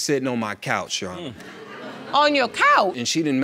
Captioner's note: audience laughs